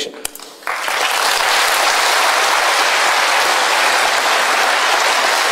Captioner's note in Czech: potlesk